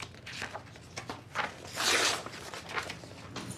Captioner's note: page tearing